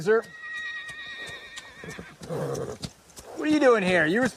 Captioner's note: hoofbeats approaching